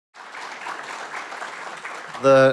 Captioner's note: audience applauding